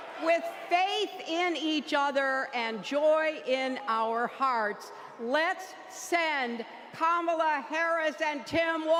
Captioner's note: chanting "keep going"